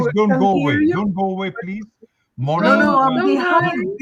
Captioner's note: chatter